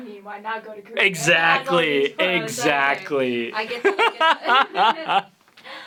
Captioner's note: laughter